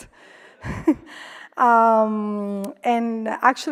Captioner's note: laughs